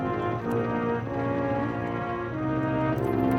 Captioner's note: none